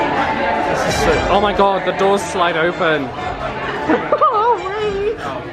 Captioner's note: laughs in astonishment